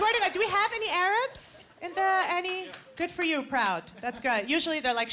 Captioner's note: person applauding